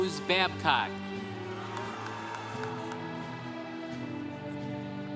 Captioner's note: congregation cheering